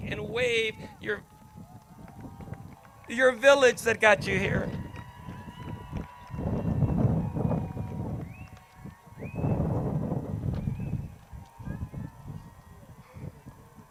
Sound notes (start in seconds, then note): 5.4 crowd cheers